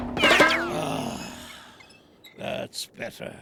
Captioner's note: clanking